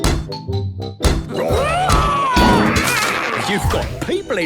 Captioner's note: all roaring